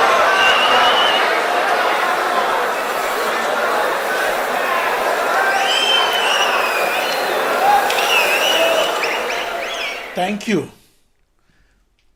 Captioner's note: wild applause and cheering for 22 seconds